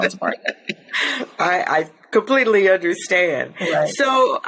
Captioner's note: chuckles